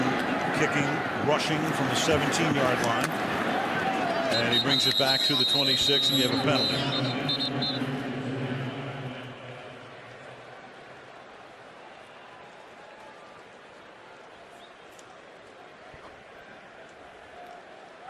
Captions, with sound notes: Graham kicking, rushing from the 17-yard line. And he brings it back to the 26. And you have a penalty. [whistle]